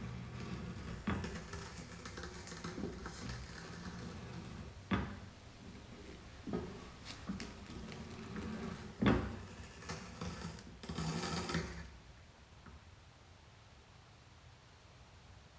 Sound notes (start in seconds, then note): 1.6 petcoke rasping